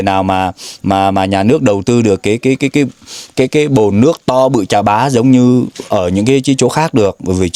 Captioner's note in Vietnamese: khịt mũi